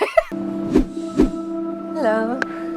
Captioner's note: Emma laughs; call to action whooshes